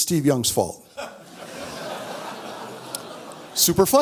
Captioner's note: audience laughs